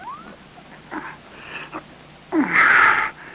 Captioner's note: grunting